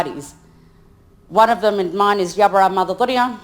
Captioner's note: speaks in foreign language